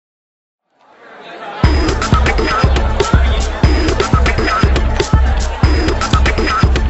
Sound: audience chattering; upbeat electronic music

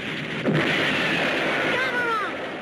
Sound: explosion booms

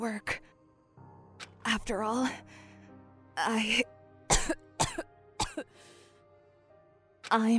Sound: cough

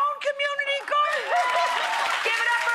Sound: audience cheering

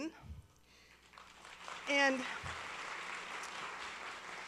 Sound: applause

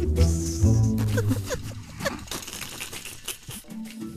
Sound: muffled laughter; stifled laughter

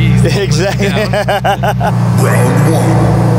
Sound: laughter

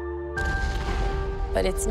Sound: explosion

